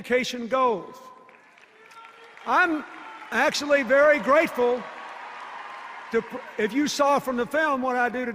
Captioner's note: applause and cheers